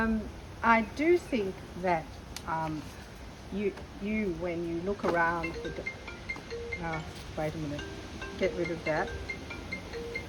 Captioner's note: phone rings